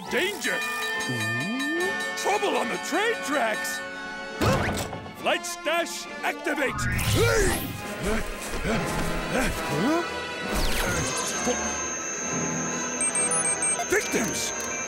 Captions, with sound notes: [dinging] Ooh. Trouble on the train tracks? Flight 'stache activate. [panting] Huh? [beeping] Victims.